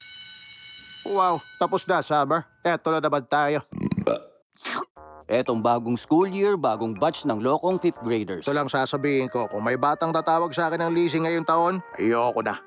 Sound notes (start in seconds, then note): 0.0 school bell rings; 3.7 burps